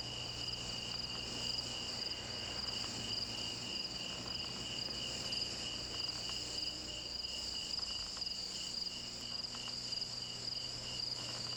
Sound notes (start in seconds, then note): none